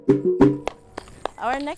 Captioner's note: applauds